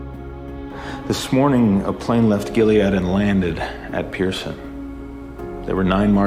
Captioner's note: voiceover